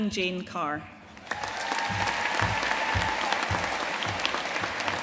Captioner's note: audience cheering and applauding